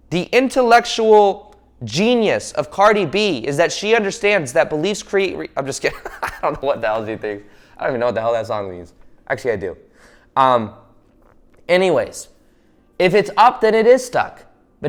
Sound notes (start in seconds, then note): 5.8 laughing